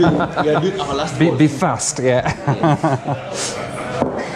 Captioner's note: chuckles